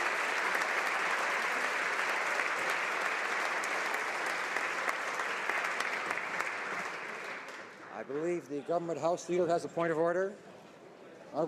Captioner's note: applause